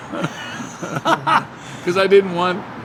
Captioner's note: both laughs